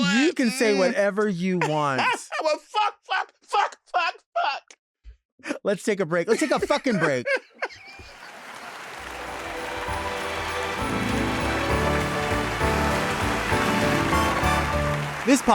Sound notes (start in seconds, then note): 2.5 laughing; 8.0 audience clapping; 8.2 laughing; 11.6 upbeat bright music